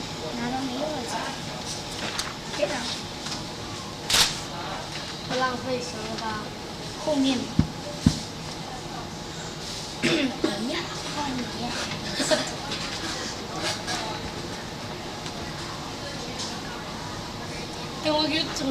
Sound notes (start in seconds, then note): 4.1 speaking in Mandarin; 10.0 speaking in Mandarin; 10.0 clears throat; 18.0 speaking in Mandarin